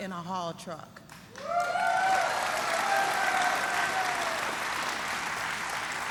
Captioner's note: applause